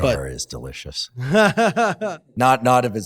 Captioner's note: laughs